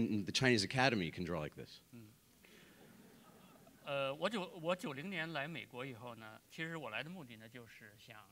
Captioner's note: speaking in Chinese